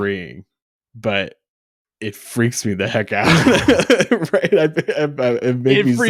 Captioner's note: laughs